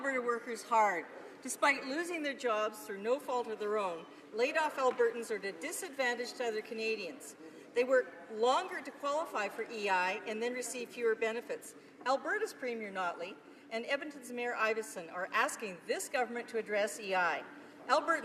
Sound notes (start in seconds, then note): none